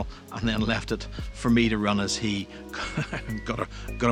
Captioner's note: laughs